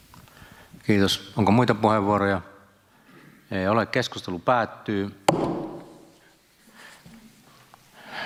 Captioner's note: Nuijan kopautus